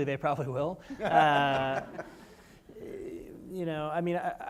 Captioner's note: panel laughs; audience laughs